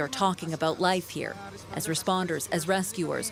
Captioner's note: foreign language